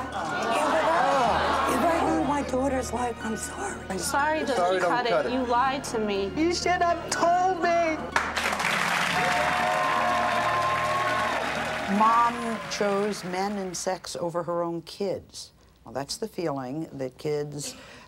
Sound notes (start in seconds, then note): 0.3 audience clamors; 8.1 applause